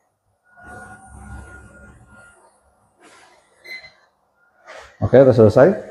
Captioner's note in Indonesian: printing